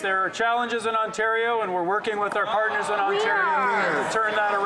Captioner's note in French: voix de l'interprète